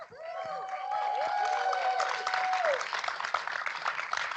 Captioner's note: cheering